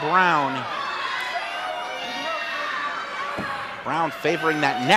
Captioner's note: audience cheers and shouts